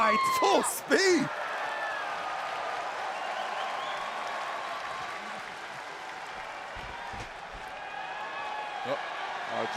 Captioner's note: crowd cheering